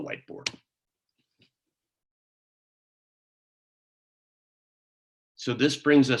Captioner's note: silence